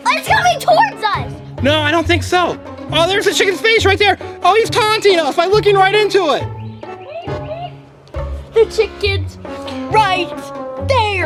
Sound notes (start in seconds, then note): 6.8 clucks